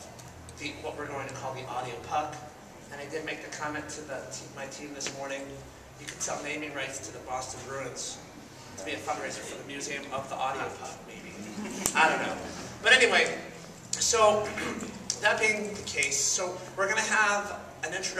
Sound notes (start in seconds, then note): 11.3 laughs